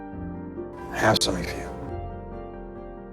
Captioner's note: voiceover